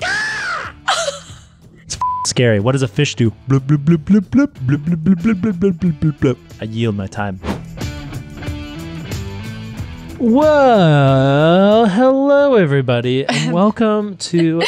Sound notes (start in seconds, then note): 0.8 laughs; 2.0 beep; 3.4 fish blooping